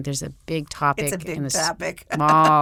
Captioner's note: laughs